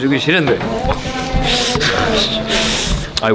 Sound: breathing in anger

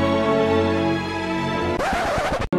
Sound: happy music; record scratch

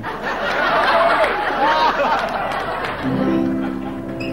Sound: audience laughing

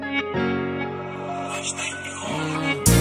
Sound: electronic voice

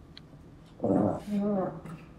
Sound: grumbling

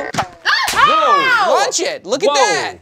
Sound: screams; gadget snaps

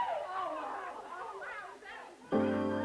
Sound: scream

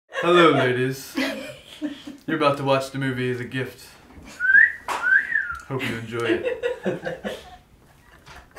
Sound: whistle; laughing

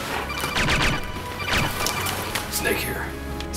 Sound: codec sound

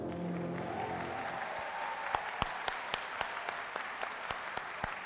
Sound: audience cheering and applauding

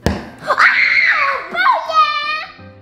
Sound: screaming

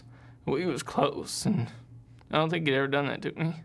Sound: voice breaking

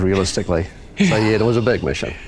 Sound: laugh

